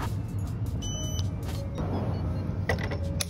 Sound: beeping

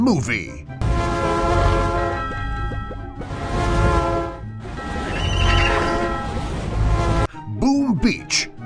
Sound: SFX: Crossy Road sound effects - Train, bells, neighing, horn

